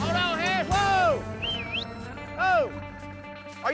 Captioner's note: whistling